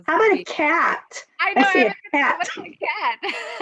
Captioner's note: overlapping chatter; laughs